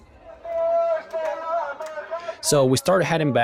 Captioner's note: man yelling on megaphone